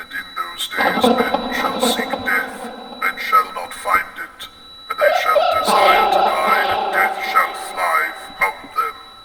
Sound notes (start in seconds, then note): 0.8 distorted talking; 0.8 eerie music